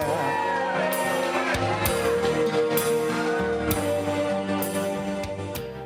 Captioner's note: audience cheering